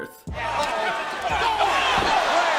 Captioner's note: crowd yelling